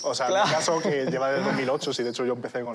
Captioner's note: laughs